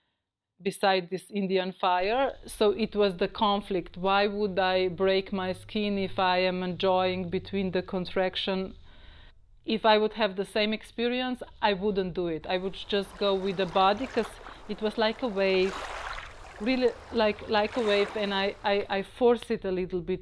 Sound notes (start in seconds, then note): 15.4 sound of water